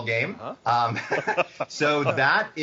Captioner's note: laughing